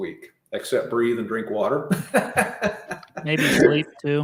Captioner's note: laughing